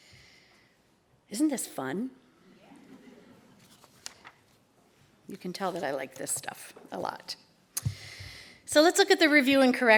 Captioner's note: laughter